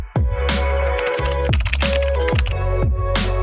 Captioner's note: upbeat music; keyboard typing; upbeat music